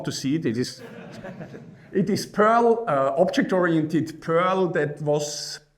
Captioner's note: laughing